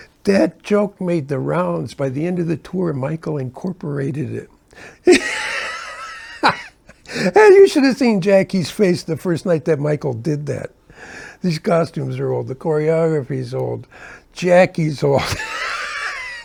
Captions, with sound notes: That joke made the rounds. By the end of the tour, Michael incorporated it. [laughing] You should have seen Jackie's face the first night that Michael did that. These costumes are old. The choreography is old. Jackie's old.